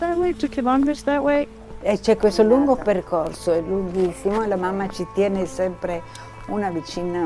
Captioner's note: speaking in foreign language